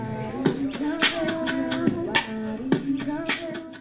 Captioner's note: beatboxing